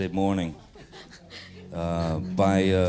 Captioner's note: audience laughs